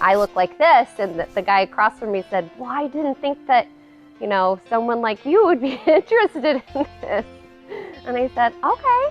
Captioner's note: laughs